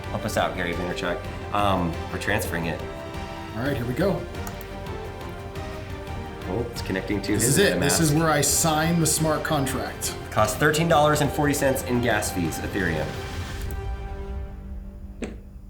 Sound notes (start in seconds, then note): 4.4 click; 4.7 intense music